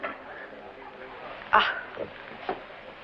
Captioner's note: gasps